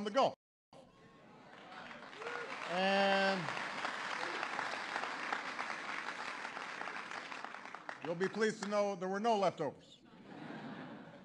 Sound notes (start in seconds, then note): 1.4 applause; 10.0 laughter